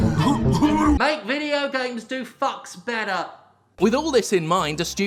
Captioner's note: yelled from offscreen